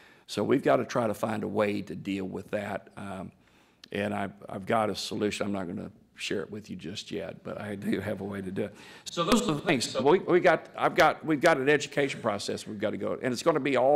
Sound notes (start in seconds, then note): none